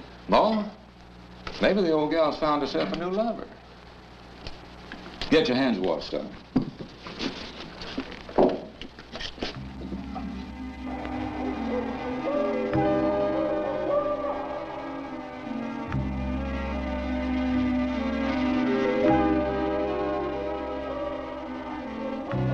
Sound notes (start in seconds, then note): 9.6 ominous music; 10.9 owl hooting